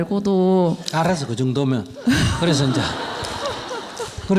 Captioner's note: audience/ Questioner Laughter